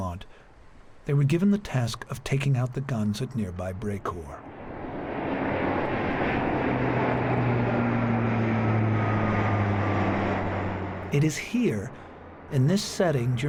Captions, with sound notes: As they made their way back towards Sainte-Marie-du-Mont, they were given the task of taking out the guns at nearby Brecourt. (airplane engines roaring)